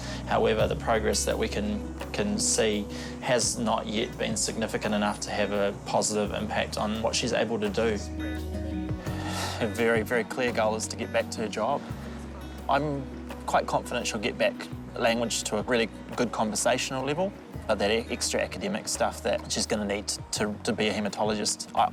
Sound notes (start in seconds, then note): 9.0 sighs